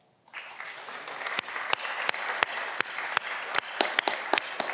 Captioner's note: audience clapping